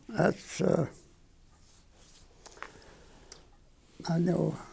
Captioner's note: none